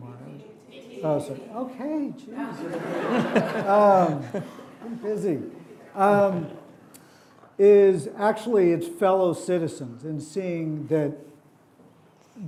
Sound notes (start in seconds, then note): 2.4 audience laughing